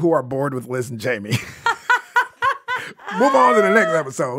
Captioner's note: laughing